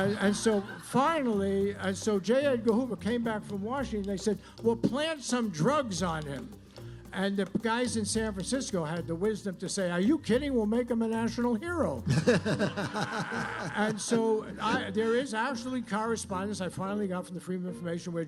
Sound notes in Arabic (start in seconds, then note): 12.1 الجمهور يضحك